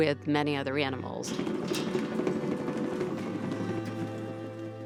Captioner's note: rustling